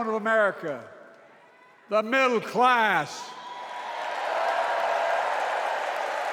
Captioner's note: cheers and applause